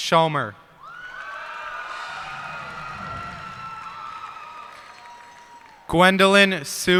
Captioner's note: cheers and applause